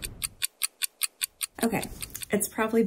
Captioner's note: fast clock ticking sound